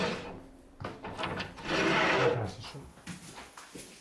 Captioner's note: scratching noises